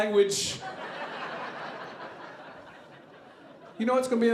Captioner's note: audience laughing